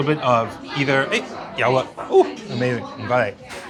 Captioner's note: speaking foreign language; speaking in foreign language